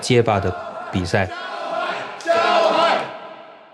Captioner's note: all chanting